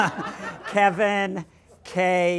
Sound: laughter

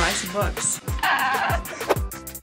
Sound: laugh

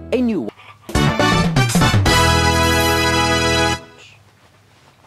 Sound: Mario kart finish sound

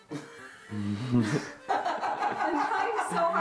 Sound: laughter

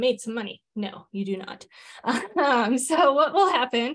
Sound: chuckles

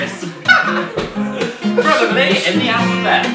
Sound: does a lovely lovely laugh

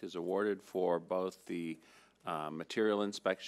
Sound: none

